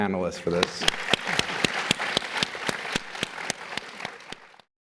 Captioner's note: applause